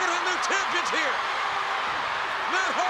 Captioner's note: audience cheering